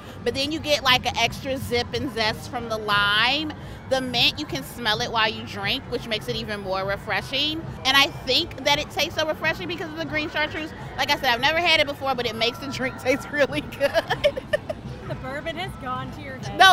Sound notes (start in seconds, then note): 13.2 laughing